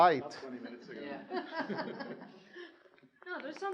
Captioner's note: students chuckling